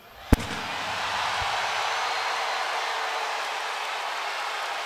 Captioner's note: audience cheers